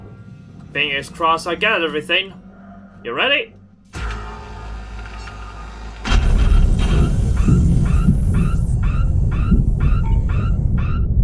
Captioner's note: loud beeping